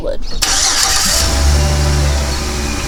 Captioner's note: engine starting